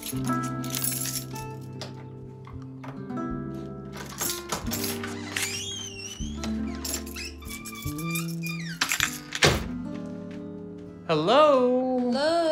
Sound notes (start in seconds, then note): 0.0 keys clink; 3.9 door creaks; 9.6 door closes